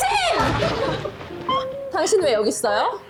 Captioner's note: thunder and lightning